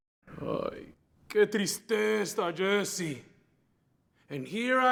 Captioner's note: Spanish